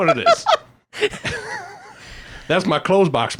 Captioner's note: both laughing